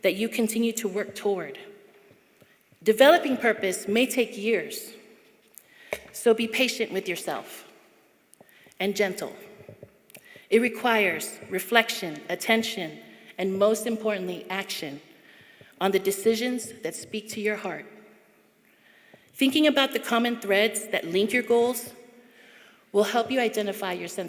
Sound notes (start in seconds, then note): none